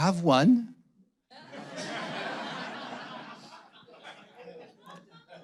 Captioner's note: audience laughing